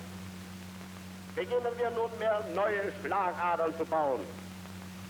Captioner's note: speaking German